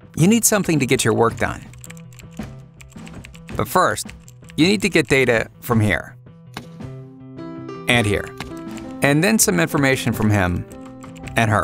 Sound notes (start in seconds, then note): 1.6 clicking